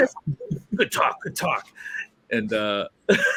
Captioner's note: laughter